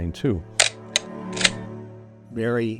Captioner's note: flicking